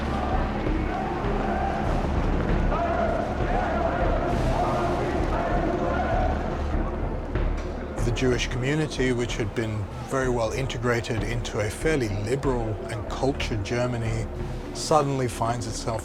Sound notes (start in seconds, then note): 2.1 speaking German